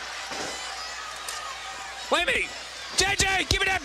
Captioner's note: crowd cheering